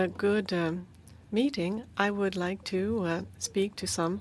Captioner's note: speaking French